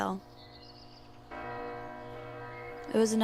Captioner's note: bell ringing